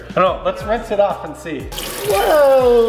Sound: water splashes

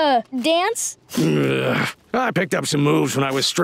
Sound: groaning

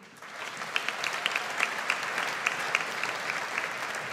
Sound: audience applauds

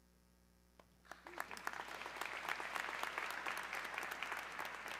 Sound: audience clapping

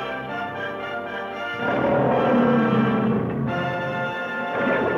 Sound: lion roaring

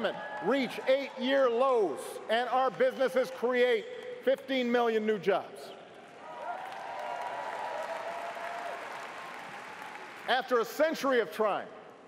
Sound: cheers & applause

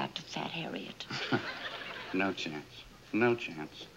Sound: chuckles

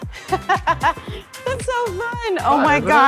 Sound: laughing

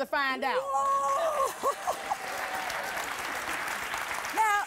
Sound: audience applause

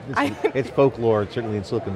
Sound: laughs

